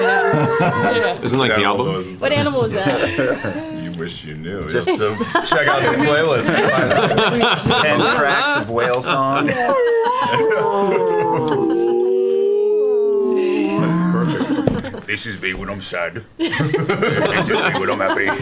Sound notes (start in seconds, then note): 9.9 whale song; 11.2 whale songs